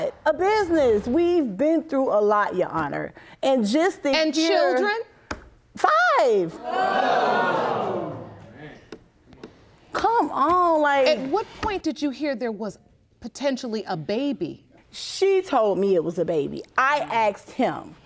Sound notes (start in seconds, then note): 5.3 audience gasps